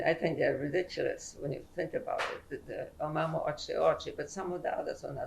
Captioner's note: non-english